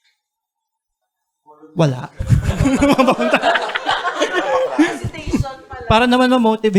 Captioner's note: laughter